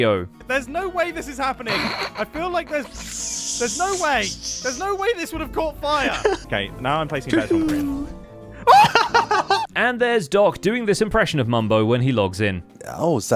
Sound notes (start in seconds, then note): 1.6 snickers; 7.4 yelps; 8.6 laughs